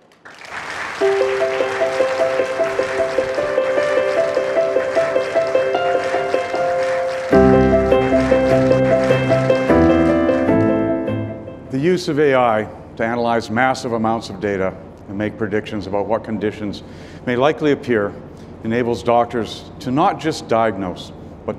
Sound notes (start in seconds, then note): 0.1 audience applauding; 0.1 warm music; 8.6 audience applauding